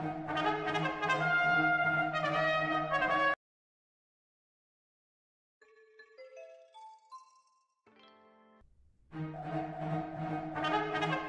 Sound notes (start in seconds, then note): 3.7 silence